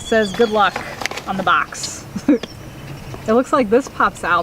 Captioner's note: laughs